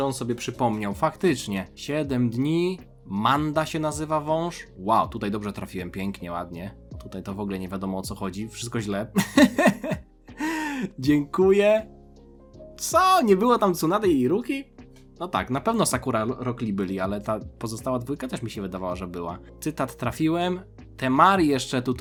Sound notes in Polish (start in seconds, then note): 9.2 śmiech